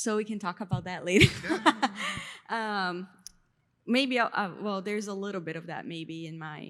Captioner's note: laughs